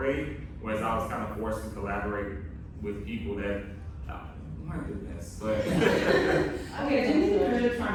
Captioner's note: laughter